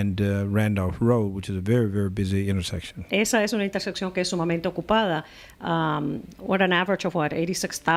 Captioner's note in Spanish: Hablando ingl\s